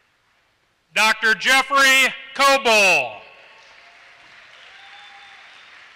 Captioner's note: applause